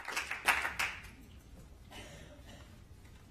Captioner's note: applause